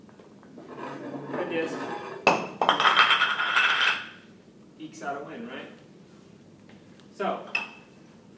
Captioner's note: background metallic sounds